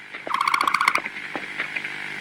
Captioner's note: Dilo chirp